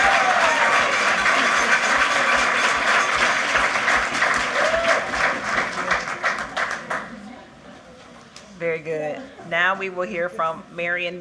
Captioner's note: cheering; applause